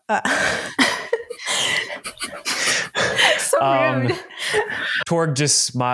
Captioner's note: laughter